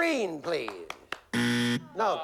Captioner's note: buzzer